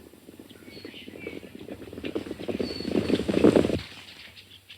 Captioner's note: galloping hooves